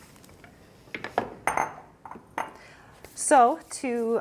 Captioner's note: bowl clinks